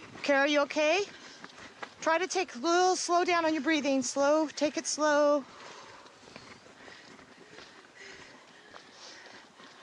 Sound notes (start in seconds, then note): 5.4 heavy breathing; 5.8 sound of footsteps